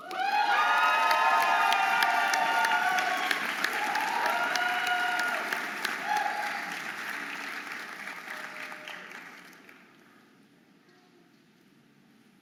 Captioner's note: audience applauding and cheering